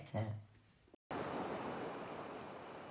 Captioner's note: waves splashing